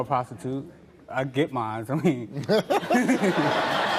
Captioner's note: Steve laughing; audience laughing, applauding